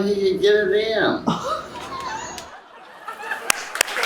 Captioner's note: laughs; laughter, cheering, and applause